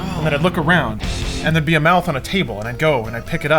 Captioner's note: gasping